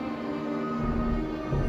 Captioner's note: cries like a baby